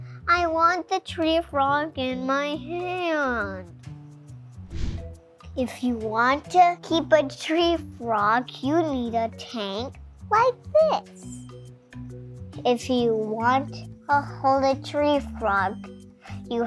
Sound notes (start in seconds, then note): 4.6 air whooshes